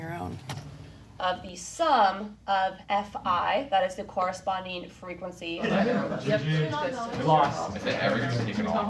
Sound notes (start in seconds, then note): 6.2 students chatter